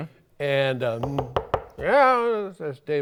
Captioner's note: knocking